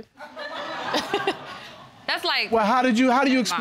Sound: audience laughing

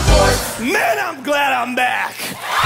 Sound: cheering

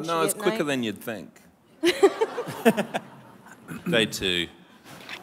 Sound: laughter

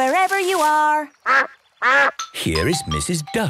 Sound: quacks

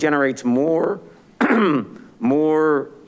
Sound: clears throat

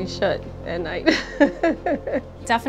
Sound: laughs

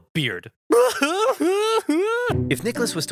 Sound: crying loudly

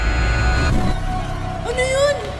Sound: lights flicker

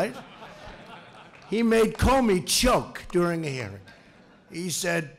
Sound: laughter

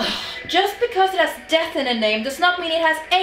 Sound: scoffs

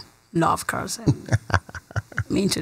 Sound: laughs

